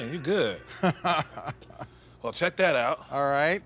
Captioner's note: laughs